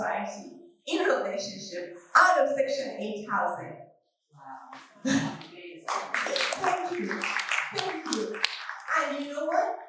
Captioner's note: applause